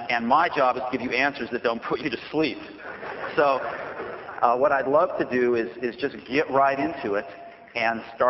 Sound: laughter

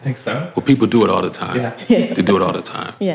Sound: laughs

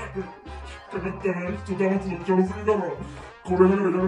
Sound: laughs

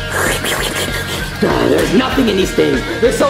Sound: Luigi slurping

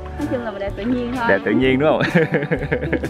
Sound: laugh

